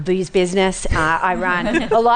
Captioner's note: laughter